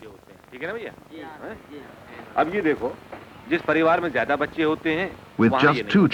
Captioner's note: non-English speech